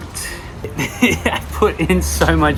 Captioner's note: laughing